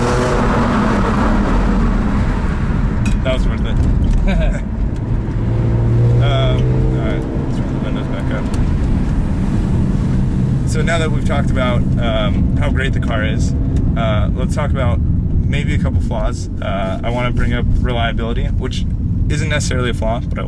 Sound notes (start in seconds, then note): 4.1 both laugh